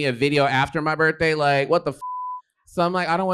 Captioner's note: beep